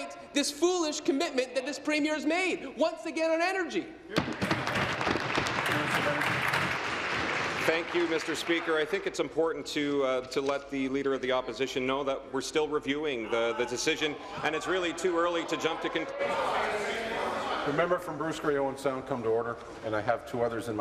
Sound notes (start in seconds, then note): 7.3 applause